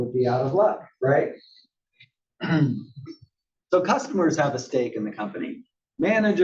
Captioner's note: cough